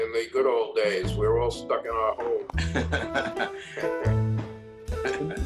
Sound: laughing

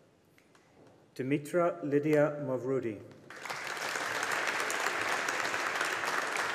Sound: audience applauding

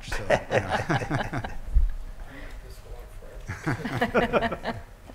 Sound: panelists laughing

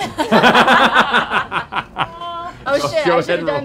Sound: laughing

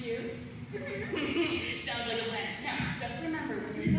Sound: chuckles

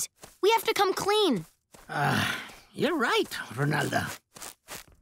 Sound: sighing

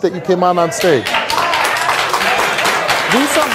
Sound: applause

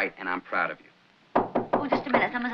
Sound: knocking on door

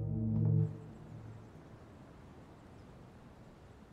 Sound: distant air/traffic

